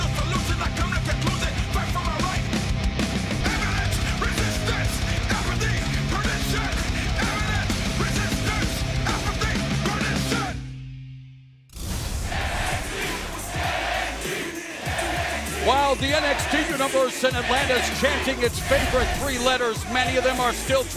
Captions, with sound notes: [FANS CHANTING] >> WHILE THE NXT UNIVERSE IN ATLANTA IS CHANTING ITS FAVORITE